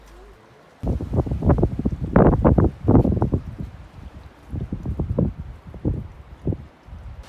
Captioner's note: wind noise